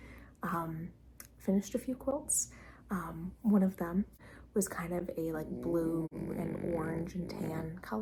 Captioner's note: puppy snort